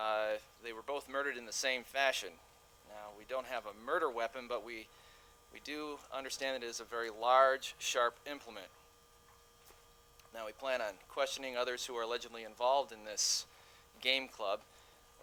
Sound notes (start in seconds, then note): none